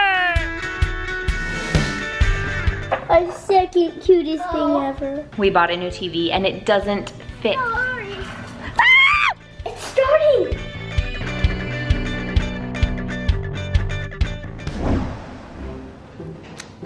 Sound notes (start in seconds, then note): 0.2 upbeat music; 8.7 screams